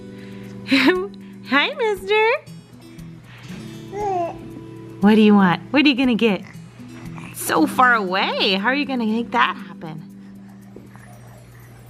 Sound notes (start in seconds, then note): 0.7 giggles; 3.8 baby coos